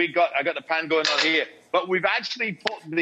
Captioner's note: pan bangs against stove top